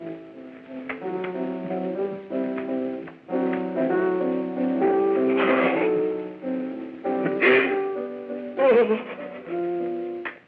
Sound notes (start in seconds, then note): 0.1 gentle piano music; 5.4 sobbing